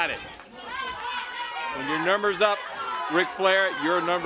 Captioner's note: crowd cheering